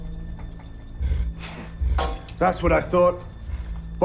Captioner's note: scoffs